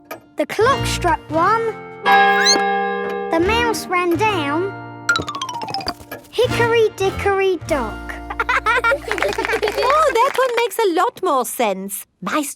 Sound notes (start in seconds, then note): 2.3 clock chimes; 2.3 squeaks; 8.4 laughing